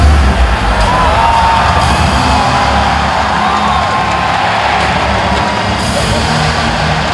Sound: crowd cheering

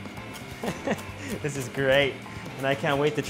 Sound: chuckles

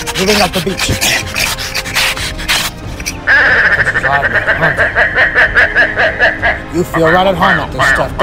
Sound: bird Sounds

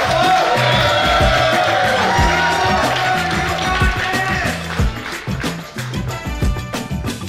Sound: cheering & Clapping

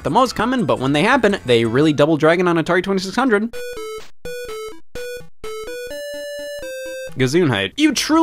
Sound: video game beeps

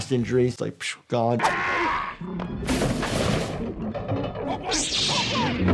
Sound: shouting, crashing

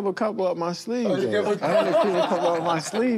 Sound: laughter

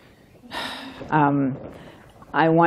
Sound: sighs

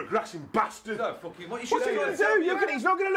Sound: shouting

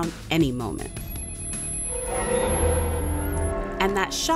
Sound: phone ringing

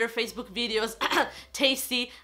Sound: cough

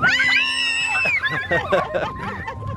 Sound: children laugh; children scream; laughs

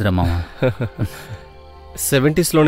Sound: chuckles

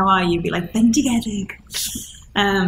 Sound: speaking Welsh

